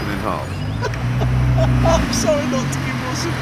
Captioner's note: richard laughs